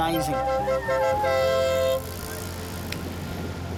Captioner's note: ambulance horn toots